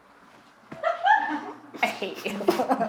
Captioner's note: laughing